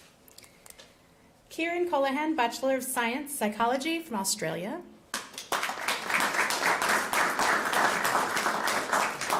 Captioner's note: applause